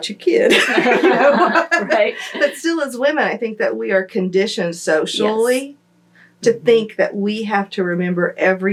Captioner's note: laughter